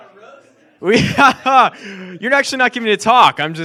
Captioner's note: laughs